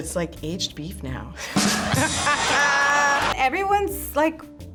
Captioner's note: rim shot; laughs